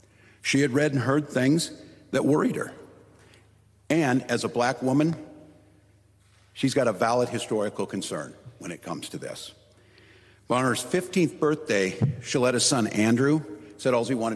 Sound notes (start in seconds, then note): none